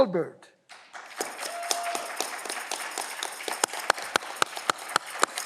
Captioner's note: audience clapping